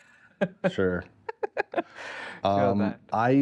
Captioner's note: laughing